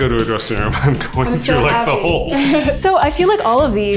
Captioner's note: laughs